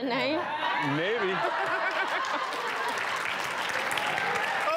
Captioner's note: audience laughing; clapping